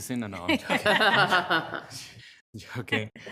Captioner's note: people laughing